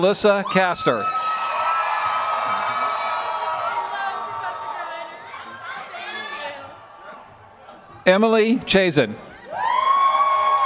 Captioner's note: applause